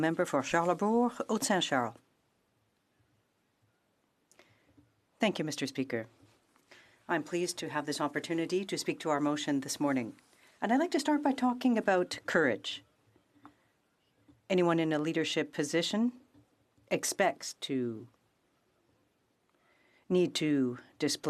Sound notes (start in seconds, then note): 8.2 speaking French